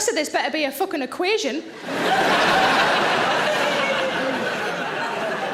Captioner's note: audience laughing